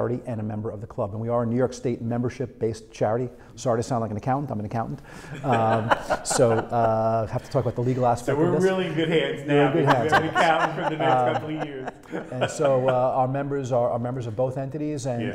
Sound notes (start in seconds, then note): 5.2 laughing; 9.7 laughs